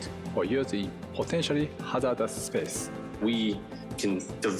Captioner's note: speaks faintly